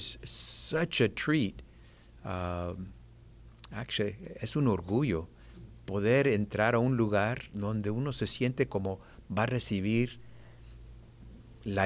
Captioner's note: speaking spanish